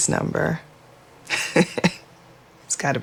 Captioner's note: laughs